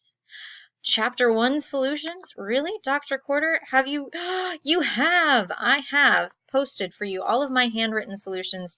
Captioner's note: gasp